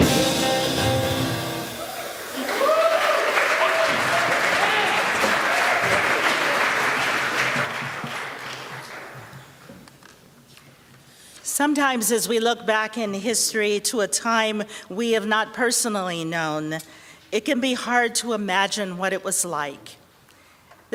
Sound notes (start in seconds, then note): 1.8 applause